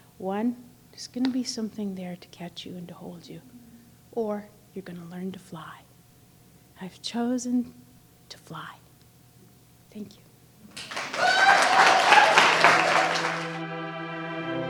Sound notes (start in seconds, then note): 10.7 applause